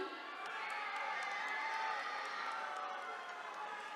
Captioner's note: attendees cheering